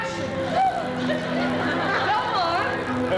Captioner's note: women gasp